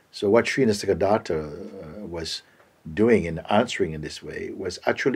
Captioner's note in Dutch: none